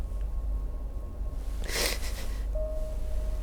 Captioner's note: Naomi sniffles; sad piano